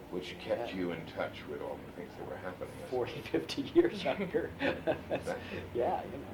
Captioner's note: laughs